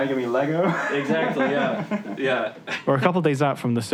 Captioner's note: laughs